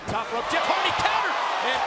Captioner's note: crowd gasping